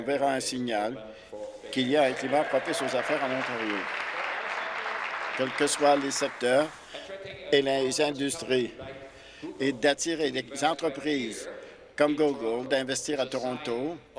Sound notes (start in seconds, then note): 5.5 applause